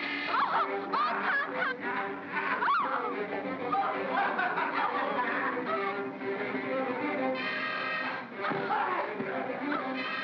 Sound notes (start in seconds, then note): 0.0 Barnaby growls; 0.0 ominous music; 1.9 Barnaby growls; 1.9 ominous music; 3.8 Barnaby cackles; 3.8 ominous music